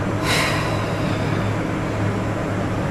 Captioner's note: sighs